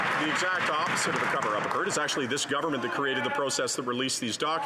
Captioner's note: some Applause